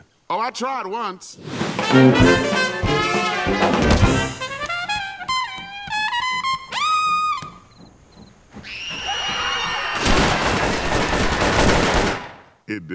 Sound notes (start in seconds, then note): 1.6 jazz music; 8.6 screaming; 9.9 shooting